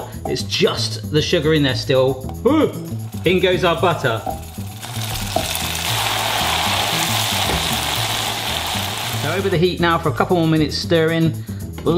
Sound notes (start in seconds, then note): 4.4 butter sizzling loudly; 6.3 mellow melodic music